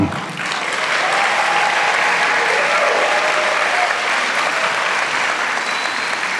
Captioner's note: applause